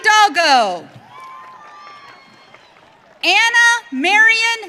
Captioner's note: audience cheering